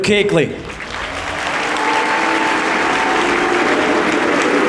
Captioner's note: applause